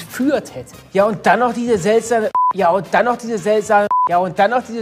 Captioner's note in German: piep